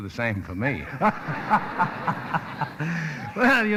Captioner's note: laughing